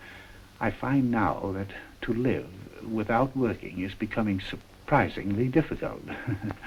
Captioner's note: laughs